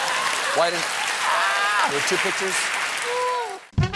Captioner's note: cheers and applause